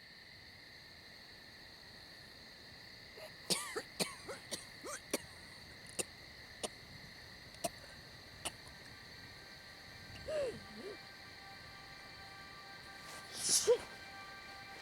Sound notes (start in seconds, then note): 3.2 Mackenzie coughing